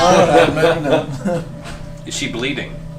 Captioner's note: all laugh